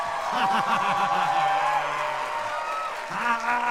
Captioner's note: laughing